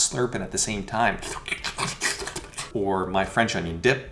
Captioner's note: slurping